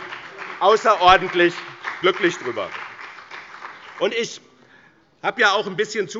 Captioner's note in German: Beifall bei dem BÜNDNIS 90/ DIE GRÜNEN und der CDU